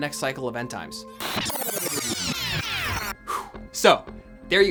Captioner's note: distorted sound